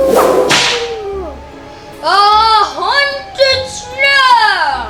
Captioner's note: ghostly taunting